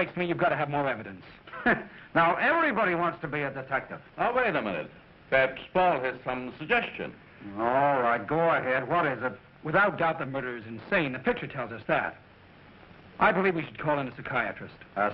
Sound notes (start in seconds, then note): 1.4 chuckles